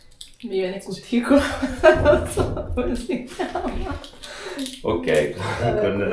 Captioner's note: laughter